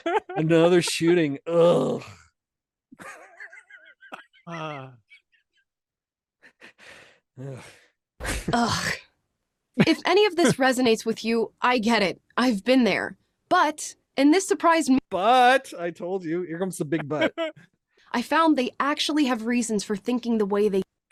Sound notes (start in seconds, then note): 5.2 laughter